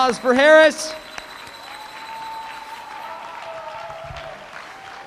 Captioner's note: applause